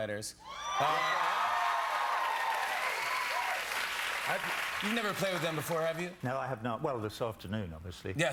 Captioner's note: cheers and applause